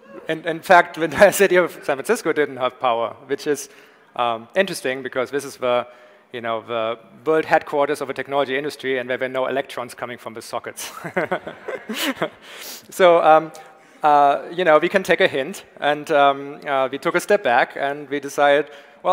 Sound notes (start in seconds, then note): 11.0 Tobi laughs; 11.1 audience laughs